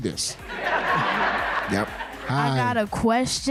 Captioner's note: laughing